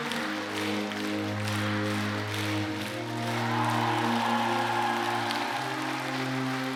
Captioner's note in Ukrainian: оплески